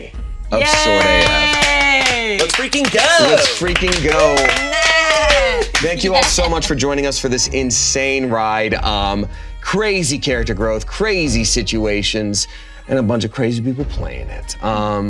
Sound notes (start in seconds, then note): 4.7 all cheering